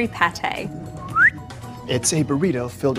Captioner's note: whistles